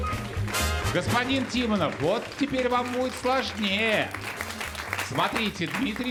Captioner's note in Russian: аплодисменты